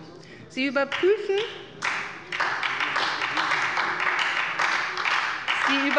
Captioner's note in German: Beifall bei der SPD